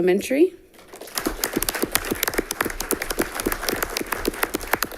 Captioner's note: all clapping